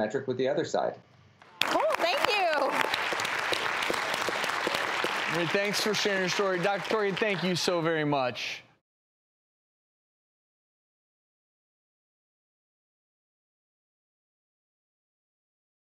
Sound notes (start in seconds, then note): 3.6 clapping